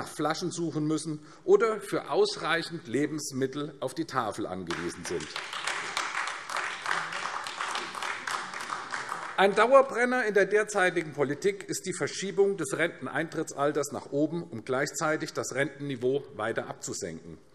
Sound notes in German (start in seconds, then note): 4.6 Beifall AfD